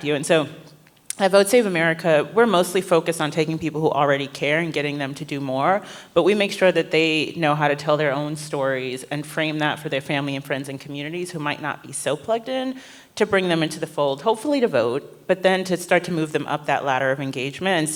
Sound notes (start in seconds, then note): none